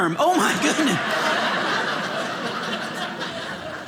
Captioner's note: audience laughing